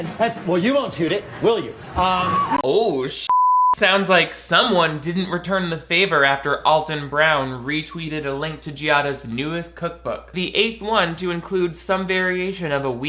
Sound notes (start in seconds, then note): 3.2 beep